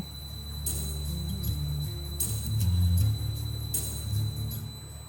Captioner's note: motor whirring